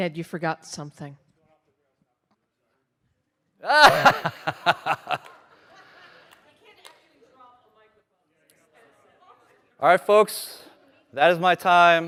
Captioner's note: laughter